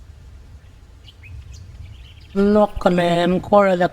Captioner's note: birds singing